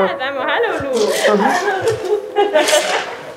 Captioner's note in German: Lachen und Schluchzen